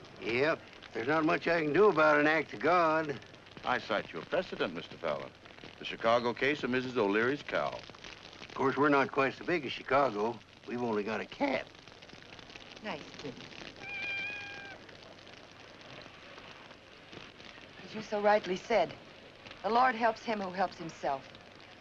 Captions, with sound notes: - Yep, there's not much I can do about an act of God. - I cite you a precedent Mr. Fallon. The Chicago case of Mrs. O'Leary's Cow. - Course we're not quite so big as Chicago, we've only got a cat. - Nice kitty. (cat meows) - As you so rightly said - "the Lord helps him who helps himself".